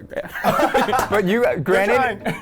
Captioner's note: laughing